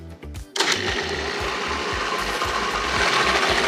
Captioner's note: whirring